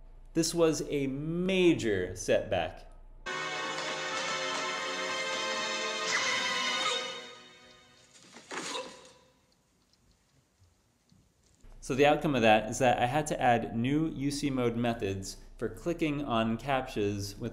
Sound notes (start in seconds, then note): 3.2 dramatic Music Playing; 5.9 dagger Whooshing